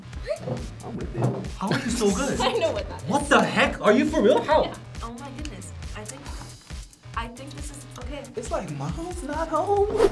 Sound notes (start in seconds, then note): 1.6 laughing